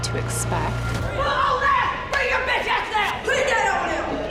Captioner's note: screaming